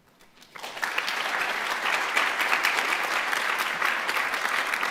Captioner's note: audience applauding